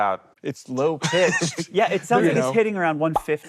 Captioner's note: group laughing